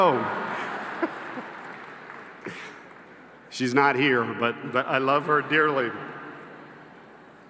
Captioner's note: laughter